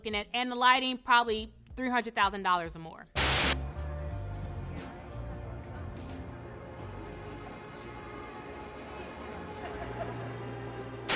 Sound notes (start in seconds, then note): 3.1 TV static hisses; 3.3 swanky ethereal music